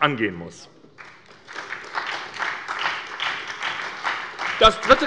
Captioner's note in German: Beifall bei der SPD